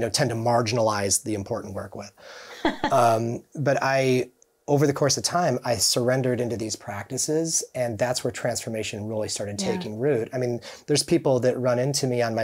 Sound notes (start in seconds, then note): 2.5 chuckling